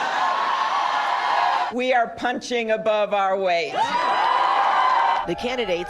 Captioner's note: cheers